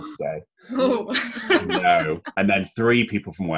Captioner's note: laughter